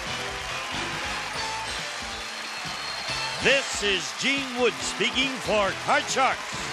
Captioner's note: applause